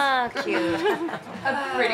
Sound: chuckles

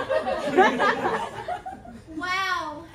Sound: laughter

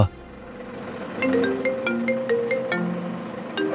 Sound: phone ringing

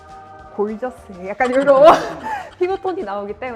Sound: hahahahahahahahahahaha

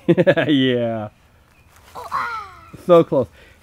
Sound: voiceover

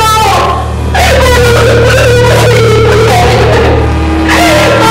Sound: cries

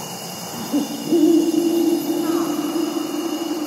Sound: owl hoots and crickets chirp; a crow caws

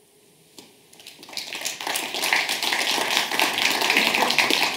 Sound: audience applauds

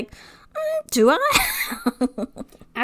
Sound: laughs

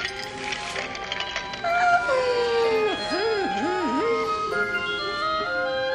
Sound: yawn

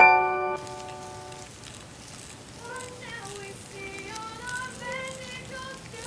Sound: silkworms munch

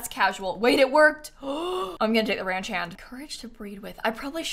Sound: gasps

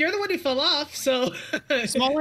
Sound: laughs

